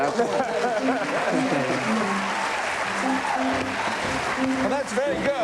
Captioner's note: applause